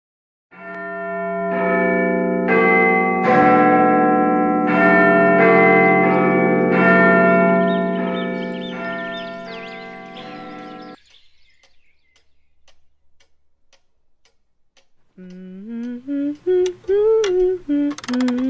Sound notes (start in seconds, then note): 0.6 clock bell rings; 7.4 bird chirp; 9.4 soft ticking in background; 15.0 humming; 17.1 humming while clock makes weird clock ticking noises